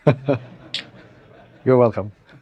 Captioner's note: laugh